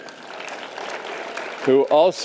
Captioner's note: audience applause